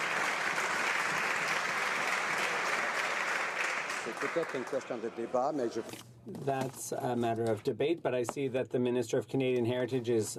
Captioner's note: some Applause